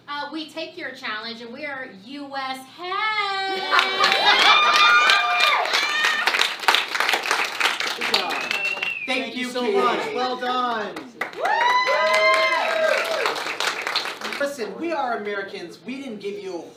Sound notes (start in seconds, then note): 3.4 cheering; 11.3 cheering